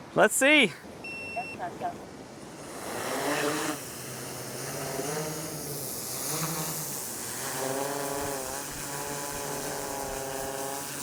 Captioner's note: drone takes off